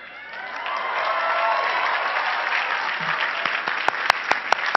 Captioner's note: cheering and clapping